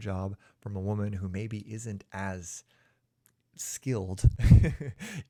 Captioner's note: chuckles